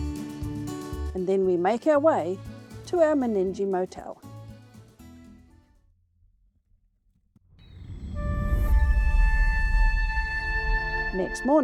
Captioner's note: machinery working